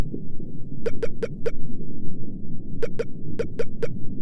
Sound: keyboard dinging

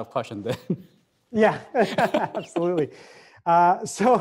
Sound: laughing

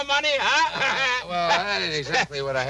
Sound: Homer laughing

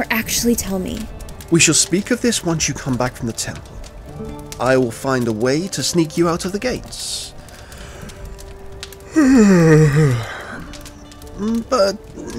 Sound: yawn

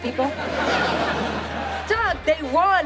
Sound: laughing

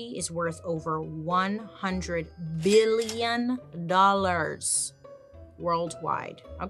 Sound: cash register dings

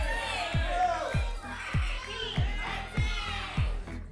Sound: audience shouting numbers

